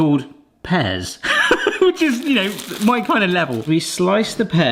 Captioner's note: laughs